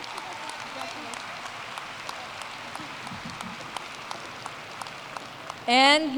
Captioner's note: applause